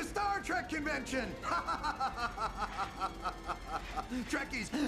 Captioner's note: evil laughter